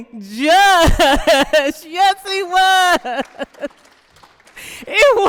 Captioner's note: applause